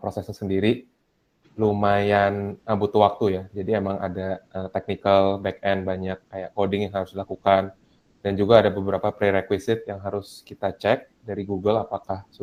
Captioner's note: speaking indonesian